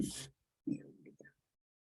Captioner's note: Swedish